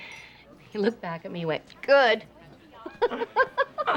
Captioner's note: laughs